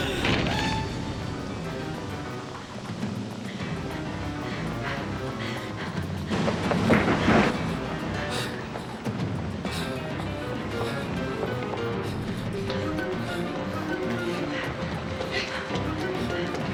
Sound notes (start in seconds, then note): 2.4 suspenseful music playing; 4.8 panting